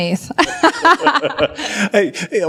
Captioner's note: laughs